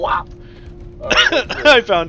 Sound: coughs

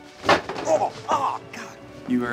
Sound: chairs clattering; groans

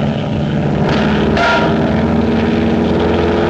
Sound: bonk!

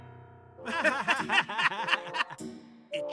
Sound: laughs

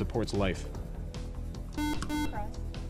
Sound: buzzer

